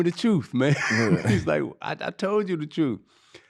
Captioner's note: laughing